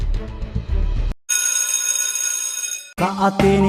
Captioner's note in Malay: loceng sekolah berbunyi